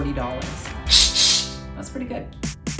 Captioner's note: steam shooting